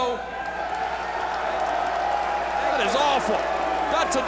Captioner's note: audience shouting